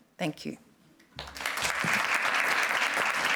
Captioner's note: applause